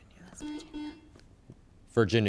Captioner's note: buzzer chimes